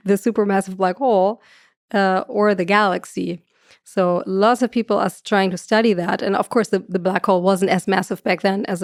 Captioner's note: none